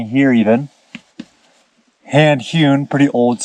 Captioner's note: timber knocking